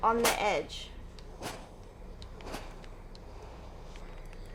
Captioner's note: steam hissing